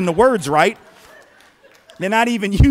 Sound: laughter

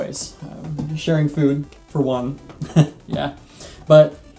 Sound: laughs

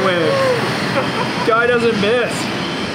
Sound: laughs

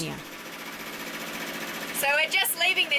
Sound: engine whirring

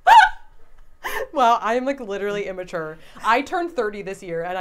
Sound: laughing

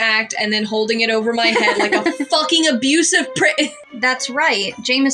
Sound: laugh

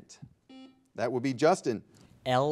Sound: buzzer beeping

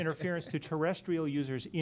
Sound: laughing

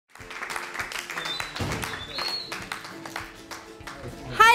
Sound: audience Clapping

